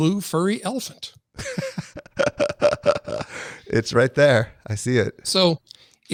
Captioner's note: laughs